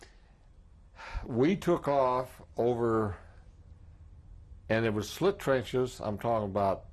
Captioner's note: sighs